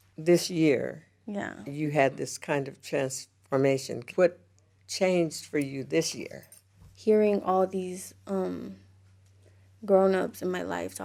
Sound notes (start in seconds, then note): none